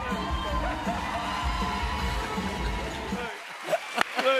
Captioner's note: cheers and applause